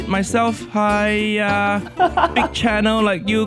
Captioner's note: laughs